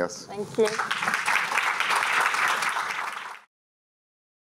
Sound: applause

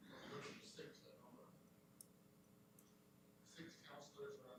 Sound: speaking off mic

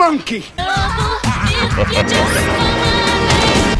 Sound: Bowser laughs

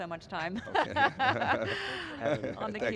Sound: laughing

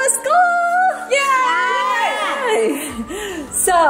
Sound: cheering

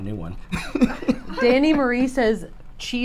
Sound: laughs

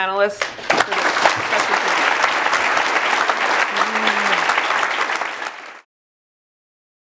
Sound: applause

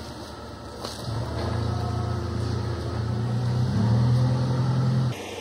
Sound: rumbling

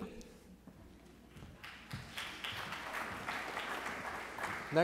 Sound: applause

